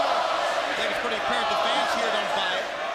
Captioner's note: crowd cheering